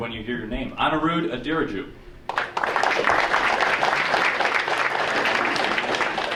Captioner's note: audience applauding